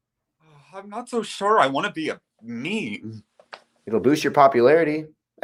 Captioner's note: sighs